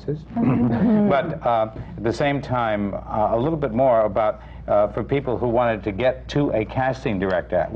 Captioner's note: laughter